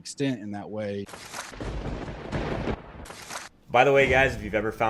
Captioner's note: lightning strikes